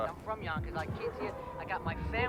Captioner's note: people chattering; loud music booming